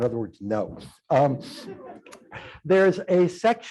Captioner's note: laughter